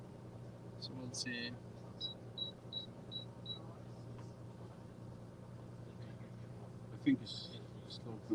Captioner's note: beeping